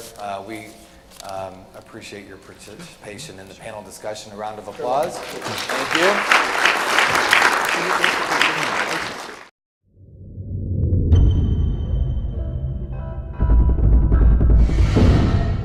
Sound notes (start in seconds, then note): 4.8 audience applause